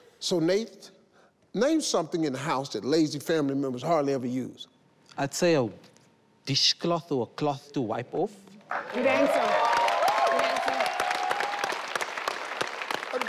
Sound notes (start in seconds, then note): 8.7 audience clapping